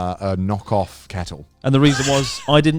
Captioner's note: laughs